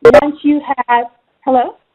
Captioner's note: beeping